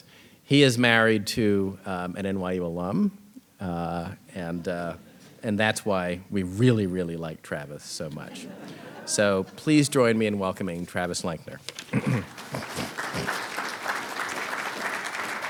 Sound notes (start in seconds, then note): 8.1 audience laughing; 11.8 audience applauding